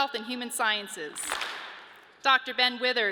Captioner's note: audience claps